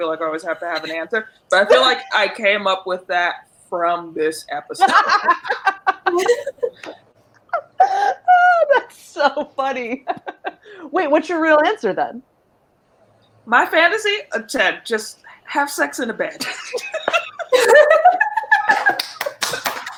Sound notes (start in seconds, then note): 4.8 all laughing; 16.3 laughing